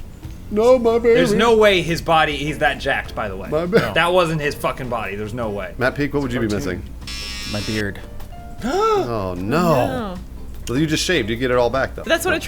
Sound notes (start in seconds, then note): 7.0 clippers buzzing; 9.4 gasps